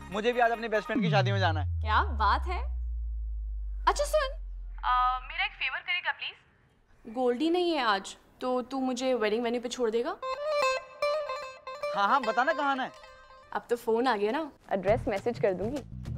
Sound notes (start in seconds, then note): none